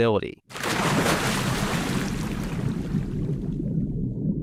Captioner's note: water splashing